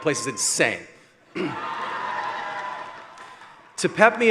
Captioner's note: cheering